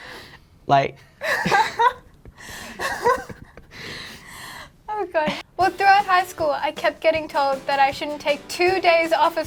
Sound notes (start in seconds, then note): 2.7 laughs